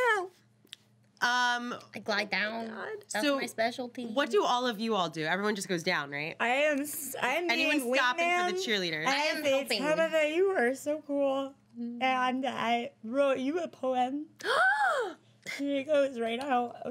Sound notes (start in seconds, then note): 14.4 girl loudly gasps